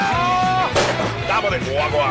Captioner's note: explosie